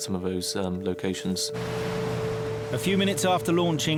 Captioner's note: boat engine revving